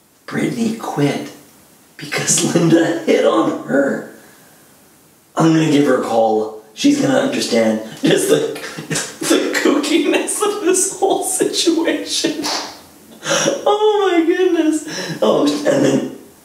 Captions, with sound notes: Britanay quit...because Linda hit on her! I'm gonna give her a call. She's gonna understand, just the...(laughs) the kookiness of this whole situation! (claps) Ooooh my goodness. Oh, and then,